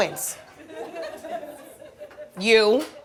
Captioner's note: audience chuckles